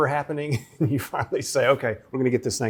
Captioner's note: chuckles